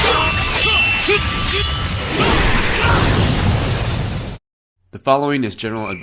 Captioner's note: sounds of swords clanging and men grunting